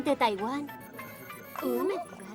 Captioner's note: phone ringing